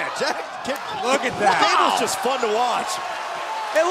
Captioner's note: crowd cheering